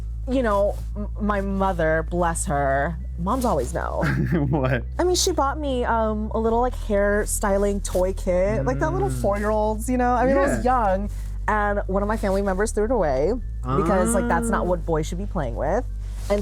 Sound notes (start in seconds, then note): 4.0 giggles